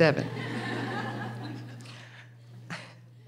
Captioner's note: laughing